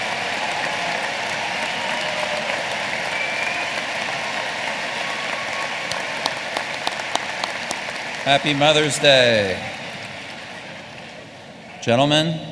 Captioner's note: applause